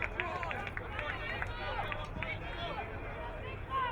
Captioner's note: crowd muttering